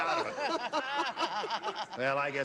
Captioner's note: laughter